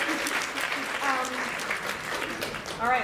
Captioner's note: applause